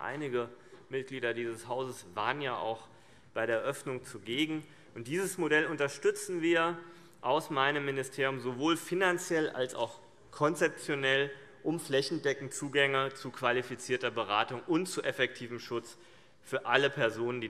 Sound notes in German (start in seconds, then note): none